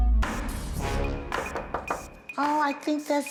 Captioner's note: knocking